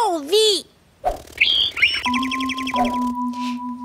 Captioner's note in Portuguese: Som de pàssaro